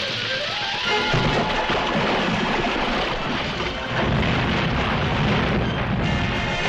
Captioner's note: water splashing; dramatic music